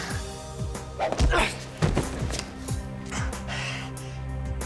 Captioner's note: stick thuds